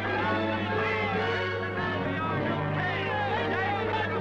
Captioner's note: excited shouting